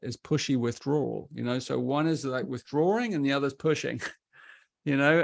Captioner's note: chuckles